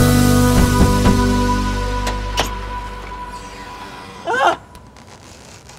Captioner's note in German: auf Auto hämmern